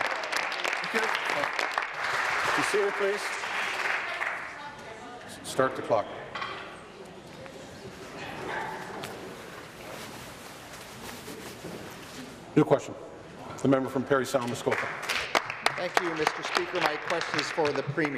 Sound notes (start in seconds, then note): 0.0 applause